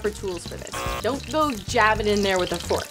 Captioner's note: buzzer buzzing